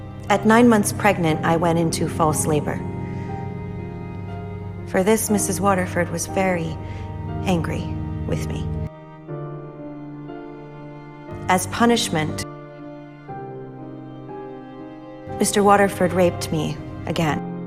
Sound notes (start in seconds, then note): 5.2 voiceover; 11.5 voiceover